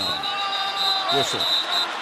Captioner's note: whistling